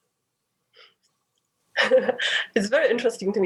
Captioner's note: laughs